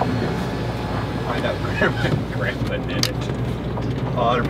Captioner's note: laughs